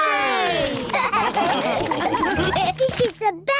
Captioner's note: all laugh